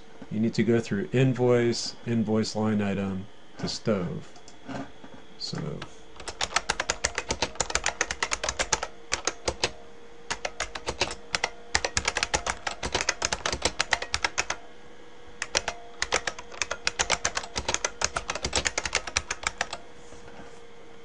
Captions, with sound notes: you need to go through invoice, invoice line item to stove. Stove. [ Typing ]